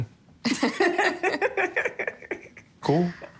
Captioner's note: laughter